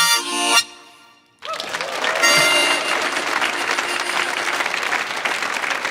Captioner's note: audience applauds